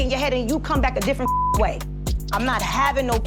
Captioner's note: beep